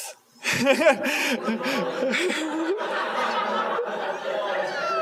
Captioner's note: laughter